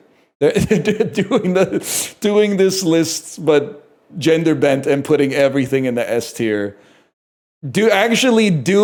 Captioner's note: laughs